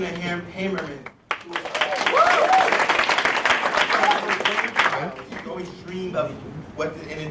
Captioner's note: applause